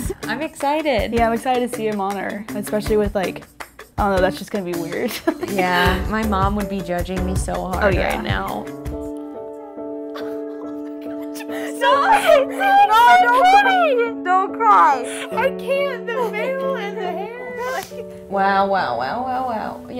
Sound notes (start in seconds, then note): 5.2 laughs; 8.7 piano music; 9.2 laughs; 11.8 friend crying